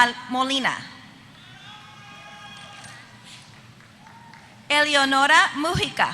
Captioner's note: applause